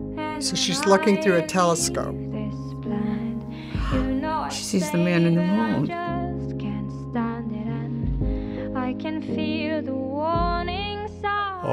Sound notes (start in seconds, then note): 3.5 gasps